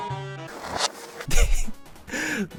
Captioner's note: giggle